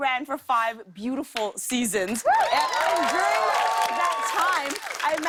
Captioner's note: cheers and applause